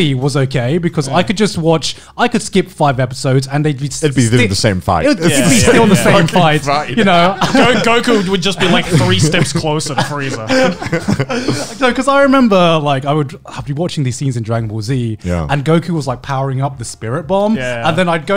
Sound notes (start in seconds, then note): 10.6 laughing softly